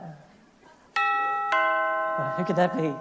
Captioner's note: doorbell sound